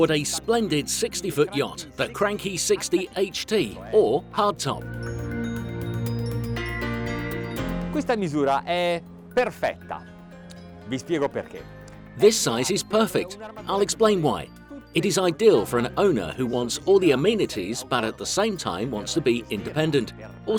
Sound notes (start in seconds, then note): 4.8 pleasant music; 7.7 speaking foreign language